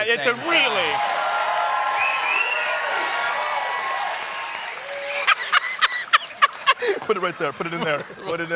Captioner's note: cheers and applause